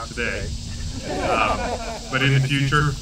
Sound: laughter

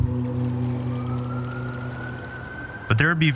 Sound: distant sirens wailing

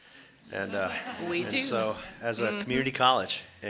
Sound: audience laughing

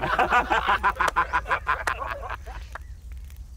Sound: laughing

